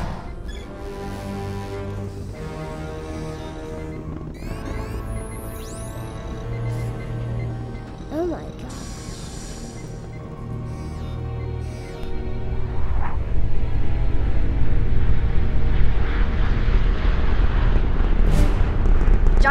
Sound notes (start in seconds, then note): 0.1 suspenseful music; 10.2 computer beeps; 12.1 rocket engines and jet afterburners